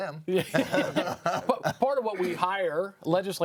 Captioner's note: laughs